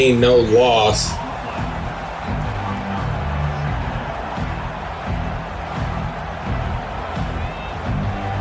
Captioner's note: crowd Noises